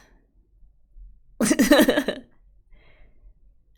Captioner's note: laughs